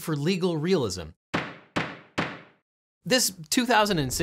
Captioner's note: gavel banging